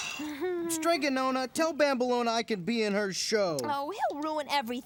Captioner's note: groans